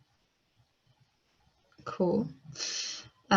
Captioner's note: silence 40.34-40.50